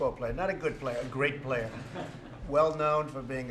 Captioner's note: laughter